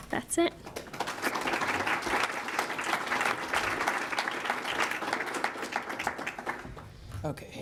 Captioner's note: applause